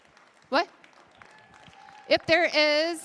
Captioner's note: applause